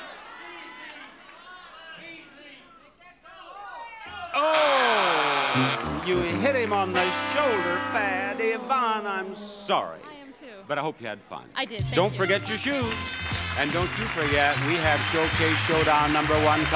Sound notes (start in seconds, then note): 4.3 audience groans